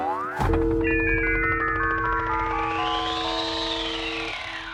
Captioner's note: chimes ringing